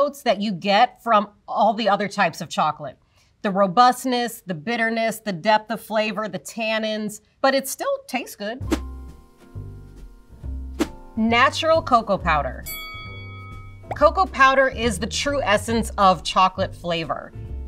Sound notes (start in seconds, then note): 8.7 whimsical music; 12.6 bell dings